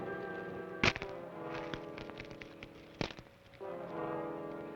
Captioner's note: manacles clack